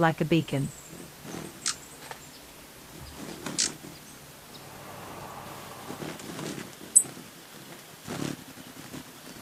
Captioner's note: birds chirping